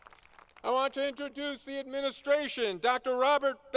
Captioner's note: applause